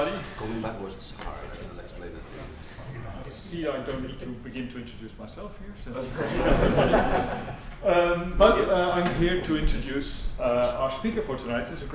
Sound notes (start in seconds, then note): 6.0 laughter